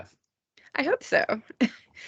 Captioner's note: chuckling